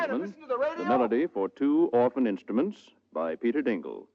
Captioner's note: radio